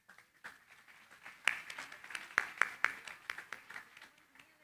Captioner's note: applause